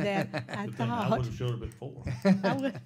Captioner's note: laughing